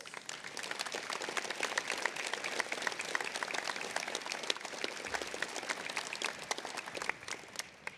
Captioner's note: applause